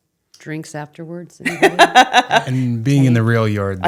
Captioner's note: laughing